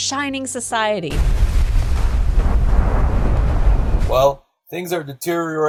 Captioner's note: loud explosion